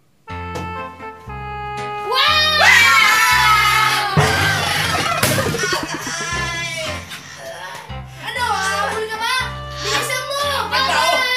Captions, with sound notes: [quirky music] [screams] Ouch! Are you still chasing me? Hurry! Bye-bye!